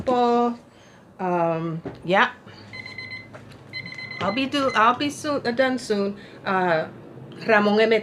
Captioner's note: timer